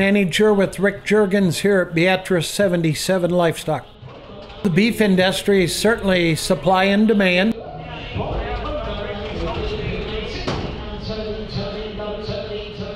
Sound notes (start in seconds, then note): 0.0 voiceover; 7.9 auctioneer chant